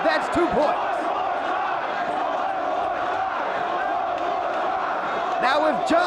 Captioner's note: spectators chanting "One more time!"